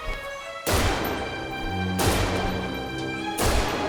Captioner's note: gun fires